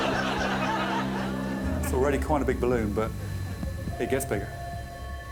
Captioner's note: audience laughing